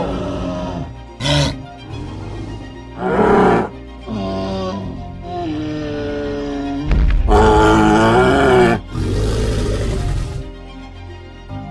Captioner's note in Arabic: أصوات ترايسيراتوبس